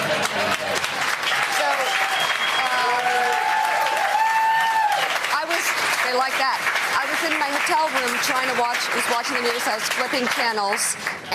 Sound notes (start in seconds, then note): 6.4 applause